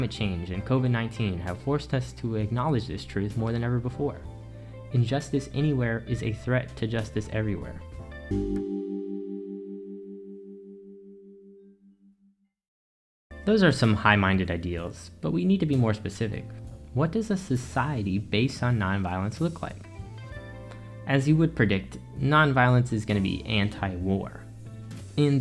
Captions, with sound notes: Climate change and COVID19 have forced us to acknowledge this truth more than ever before. “Injustice anywhere is a threat to justice everywhere.” [Transition Ding] Those are some high minded ideals, but we need to be more specific. What does a society based on nonviolence look like? As you would predict, nonviolence is gonna be anti-war.